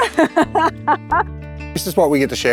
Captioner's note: laughs